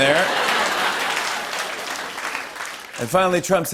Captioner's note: laughter, applause